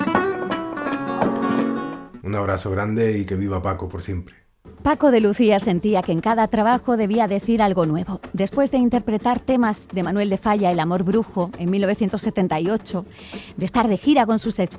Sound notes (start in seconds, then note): 2.4 musician speaking in Spanish; 4.9 speaking in Spanish